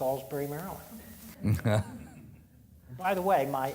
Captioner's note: audience laughing